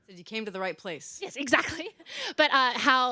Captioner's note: laughs